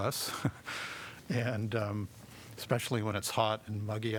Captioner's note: laughter